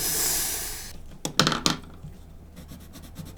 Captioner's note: nervous inhale; pencil drops on desk